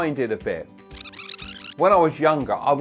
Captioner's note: tape rewinding